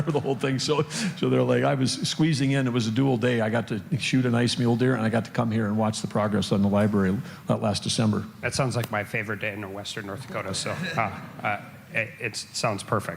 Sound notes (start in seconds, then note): 10.7 laughter